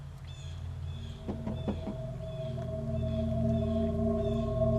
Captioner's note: ominous music; knocking on door